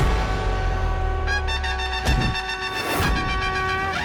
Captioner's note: bangs